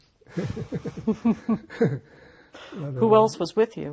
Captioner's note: laughing